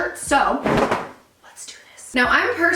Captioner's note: fabric whooshes